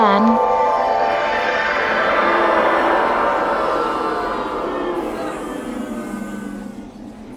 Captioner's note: teleportation sound